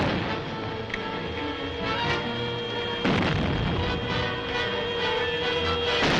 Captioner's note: plane buzzing; bombs bursting